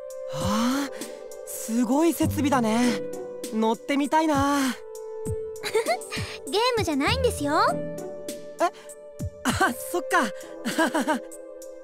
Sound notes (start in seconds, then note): 5.6 giggle; 10.6 awkward laugh